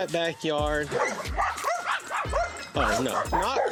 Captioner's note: dogs barking